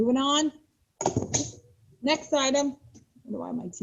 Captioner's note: thud